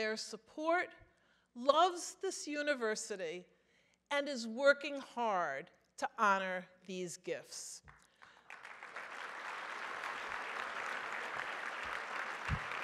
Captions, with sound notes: values their support, loves this University and is working hard to honor these gifts. (audience applauds)